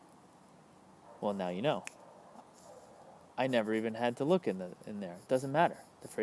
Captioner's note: snaps fingers